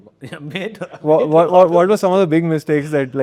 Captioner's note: laughing